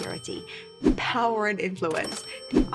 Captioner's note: money chimes